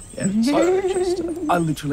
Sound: creepy giggling

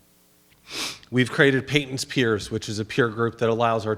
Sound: sniffs

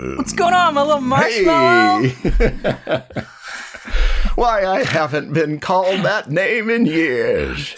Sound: laughter

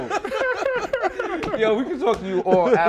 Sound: laughter

